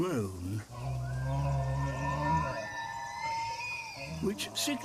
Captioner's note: resonant bellow